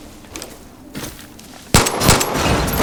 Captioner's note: gunshots